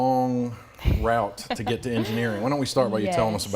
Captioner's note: laughs